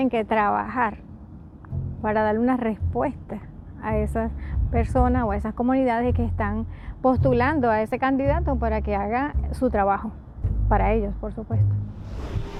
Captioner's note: spanish